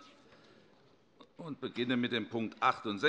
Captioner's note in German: none